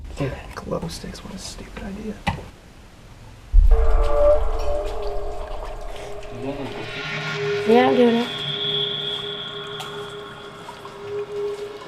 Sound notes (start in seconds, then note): 3.5 dramatic, tense music; 3.6 water trickling